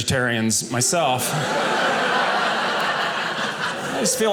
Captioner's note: audience laughing